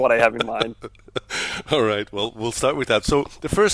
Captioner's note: laughs